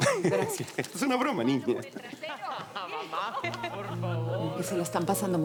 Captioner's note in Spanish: Risas